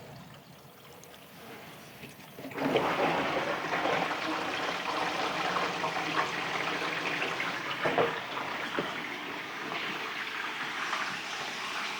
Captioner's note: water splashing